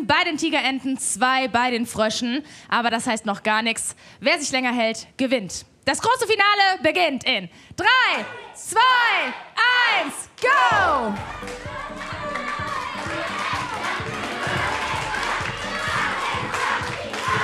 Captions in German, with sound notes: Sechs Notbremsen bei den Tigerenten, zwei bei den Fröschen. Aber das heißt noch gar nichts. Wer sich länger hält, gewinnt. Das große Finale beginnt in drei, zwei, eins, go! (Spannende Musik) (Anfeuerungsrufe)